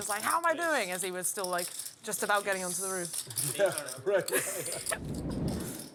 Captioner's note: laugh